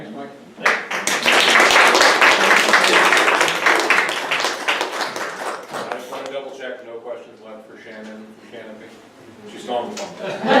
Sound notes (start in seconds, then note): 0.6 audience clapping